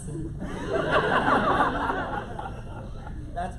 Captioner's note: laughter